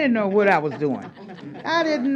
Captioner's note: laughter